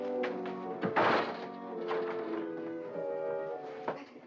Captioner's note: whimsical music; banging into door